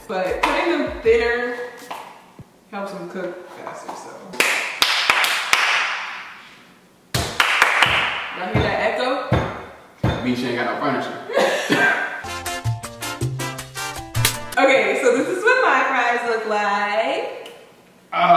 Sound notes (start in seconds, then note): 4.3 clapping; 12.1 fun music